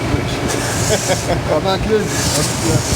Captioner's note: laughing